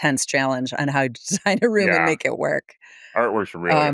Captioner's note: laughs